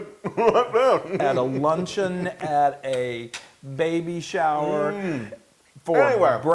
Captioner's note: laugh